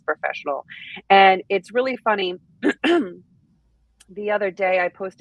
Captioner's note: clears throat